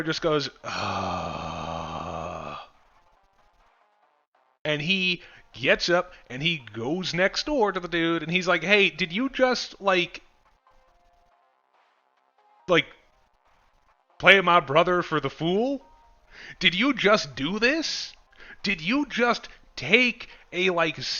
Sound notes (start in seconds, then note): 0.6 big brother groan